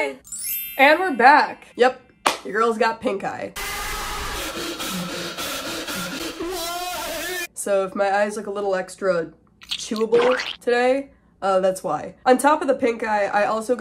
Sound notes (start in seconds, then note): 0.0 poorly singing; 3.2 tortured screaming; 9.6 squelching sounds